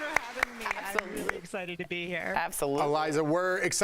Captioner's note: applause